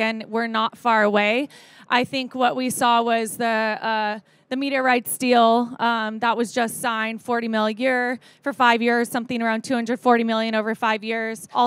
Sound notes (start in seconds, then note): none